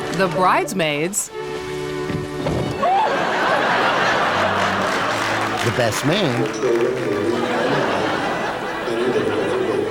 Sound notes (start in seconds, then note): 2.8 audience laughing; 7.7 audience chuckling